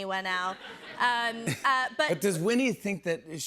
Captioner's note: laughter